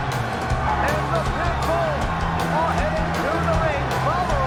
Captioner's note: bell ringing; crowd cheering